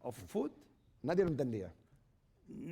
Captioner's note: speaking spanish